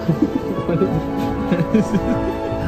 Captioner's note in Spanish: risas